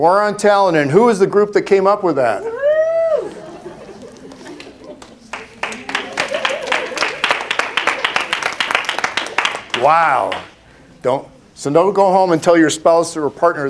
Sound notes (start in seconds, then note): 3.2 laughter